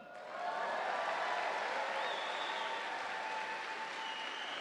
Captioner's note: audience applauding